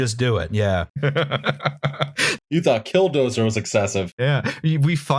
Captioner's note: laughter